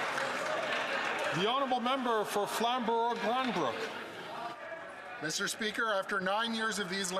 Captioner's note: some Applause